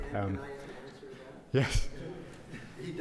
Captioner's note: man speaking in audience